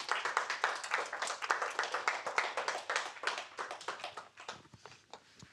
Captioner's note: audience applauding